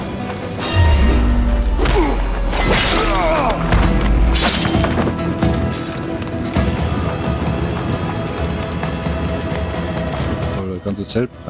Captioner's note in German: stöhnen